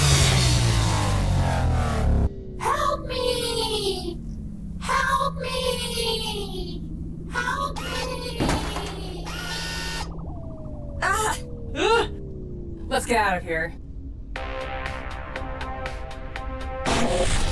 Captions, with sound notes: Help me! Help me! Help me! (Azalla whirring) (gun thumps) (Mytra and Luna gasp) - Let's get out of here. (upbeat synth music)